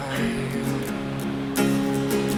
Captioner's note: laughing; guitar music